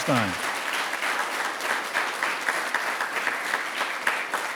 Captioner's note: audience applauding